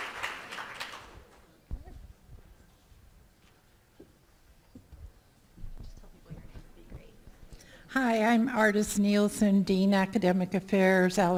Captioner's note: applause